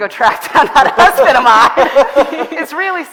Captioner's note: all laughing